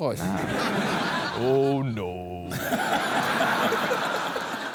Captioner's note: deep drawl